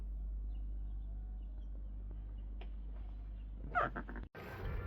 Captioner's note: bird cawing